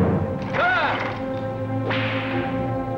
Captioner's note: whip cracks